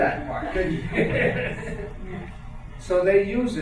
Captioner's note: laughing